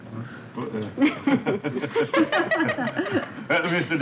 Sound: group chuckling

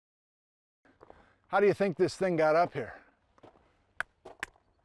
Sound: slaps

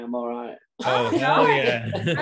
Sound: all laughing

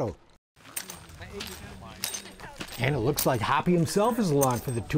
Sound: spurs clicking

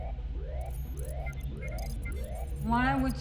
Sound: alarm blaring; computer trilling

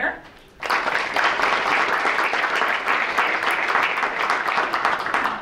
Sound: audience clapping

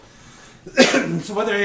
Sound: coughs

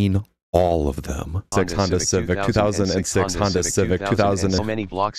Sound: tts robot

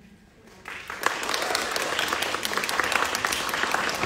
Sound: audience clapping

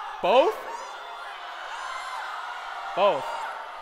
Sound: shouting

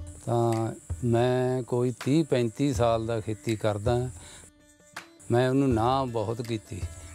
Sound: speaking in foreign language

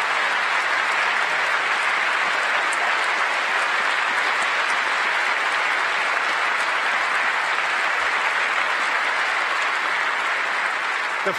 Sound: applause

